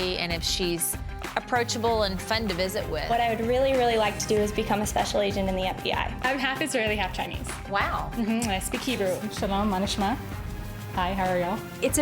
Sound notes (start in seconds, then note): 9.7 speaks hebrew